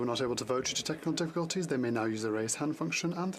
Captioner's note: speaking French